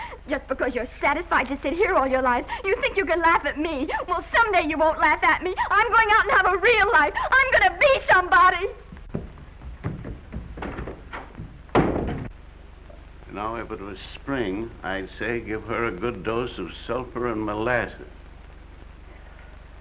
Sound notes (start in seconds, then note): 8.8 feet scrambling; 11.6 door bangs